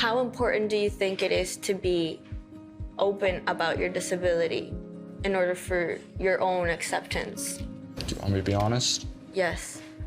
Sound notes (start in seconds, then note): none